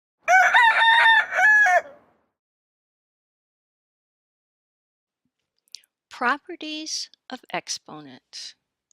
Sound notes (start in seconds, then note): 0.2 rooster crowing